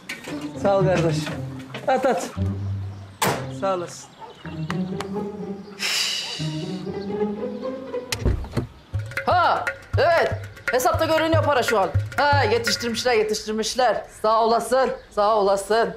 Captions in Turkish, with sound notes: Sağ ol gardaşım. At at. (Kapı kapanma sesi) Sağ olasın. Üf! Ha evet, hesapta görünüyor para şu an. Ha yetiştirmişler, yetiştirmişler sağ olasın, sağ olasın.